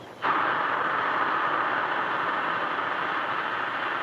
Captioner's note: air hisses